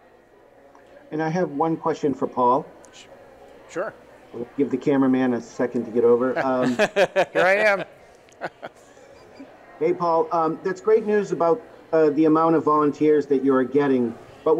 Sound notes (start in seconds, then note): 6.4 laughs; 9.0 laughs